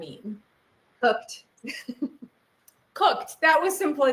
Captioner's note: chuckles